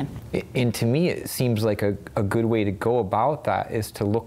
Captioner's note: none